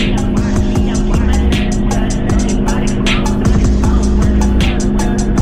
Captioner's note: 1.6i engine singing